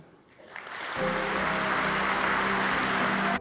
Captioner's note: applause